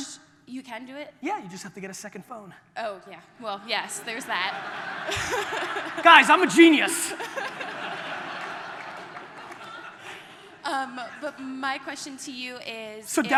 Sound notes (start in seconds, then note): 4.3 audience laughter